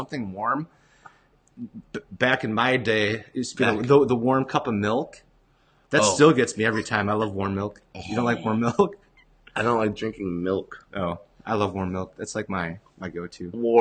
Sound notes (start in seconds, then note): 8.0 gagging